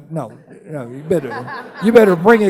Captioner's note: laughing